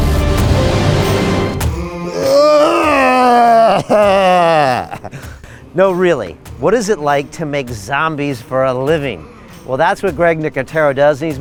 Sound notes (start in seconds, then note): 1.9 moaning